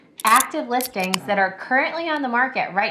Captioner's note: can opening